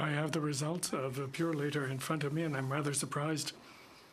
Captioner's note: speaking in french